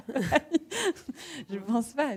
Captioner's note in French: rires